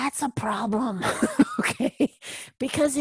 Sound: laugh

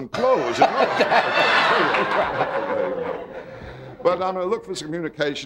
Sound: audience laughing

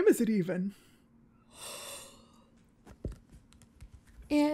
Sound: STEVIE yawns

